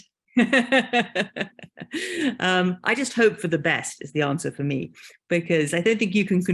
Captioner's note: laughing